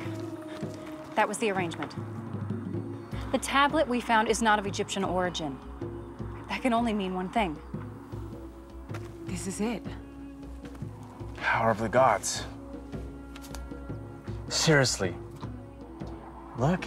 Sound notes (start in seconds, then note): none